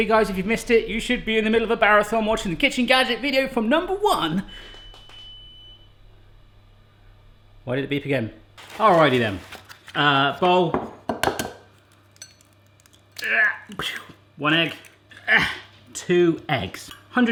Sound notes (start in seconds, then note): 4.4 beeping; 12.1 grunting